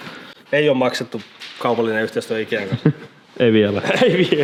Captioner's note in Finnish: naurahtaa